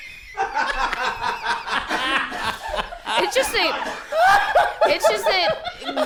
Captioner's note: multiple people erupt into laughter; uproarious laughter continues